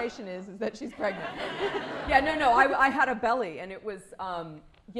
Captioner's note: laughter